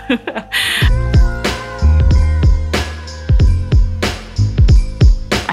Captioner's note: whistle blowing